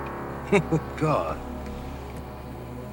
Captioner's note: chuckles